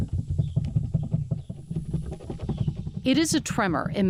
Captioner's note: table rattling